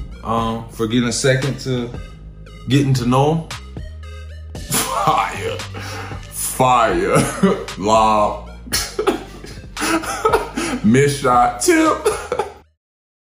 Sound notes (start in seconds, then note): 9.8 laughing